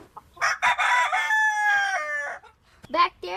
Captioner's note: rooster crowing